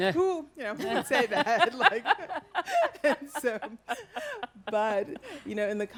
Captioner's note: all laugh